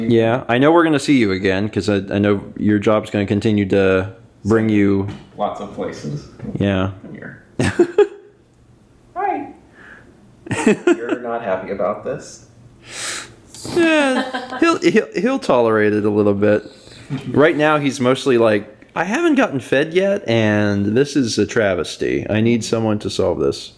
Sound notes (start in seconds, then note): 7.6 chuckles; 10.4 chuckles; 13.6 chuckle